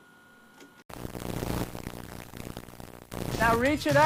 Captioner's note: static crackles